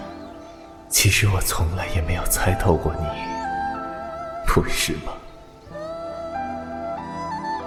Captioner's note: sigh; bird chirping